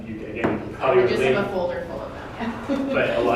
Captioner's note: laughter